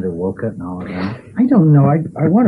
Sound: laughs

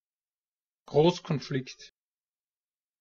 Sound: fast Pronunciation

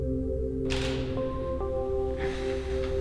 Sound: shutter clicks

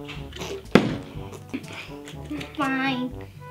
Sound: bottle landing

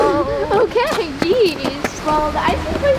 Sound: laughs

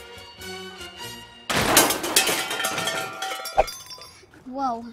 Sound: happy music; crashing sound

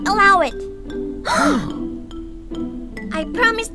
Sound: gasp

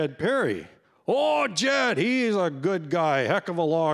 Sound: in a deep voice

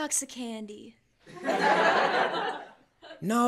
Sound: laughter

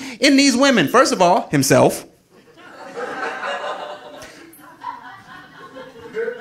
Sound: audience laughing

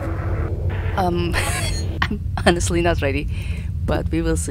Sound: chuckles

